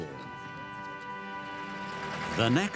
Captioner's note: car engine drones